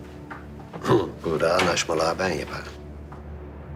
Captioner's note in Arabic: يضحك